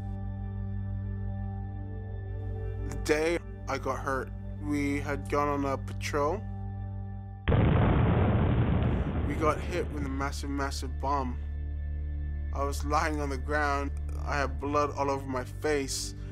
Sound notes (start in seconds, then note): 7.4 explosion